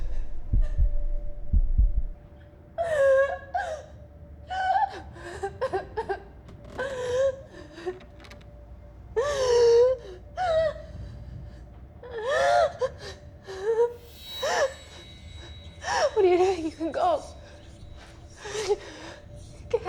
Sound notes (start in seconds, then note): 0.0 heartbeat thumping; 2.8 Kira sobbing; 6.6 floorboards creaking; 9.2 Kira sobbing; 14.0 spine-tingling music